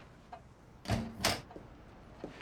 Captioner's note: door opens